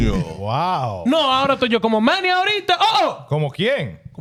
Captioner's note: speaking Foreign Language